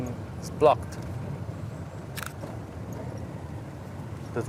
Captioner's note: camera shutter clicks